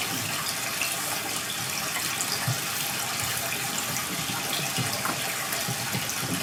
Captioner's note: water trickling continues